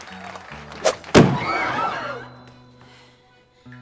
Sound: crowd gasping

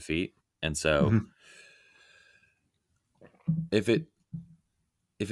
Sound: sighing heavily

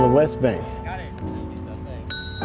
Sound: men talking; bike chime dinging

